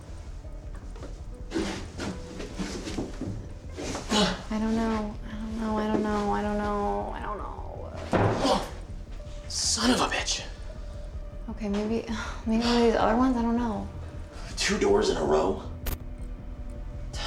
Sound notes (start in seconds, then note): 0.1 tense music; 8.5 Tyler grunts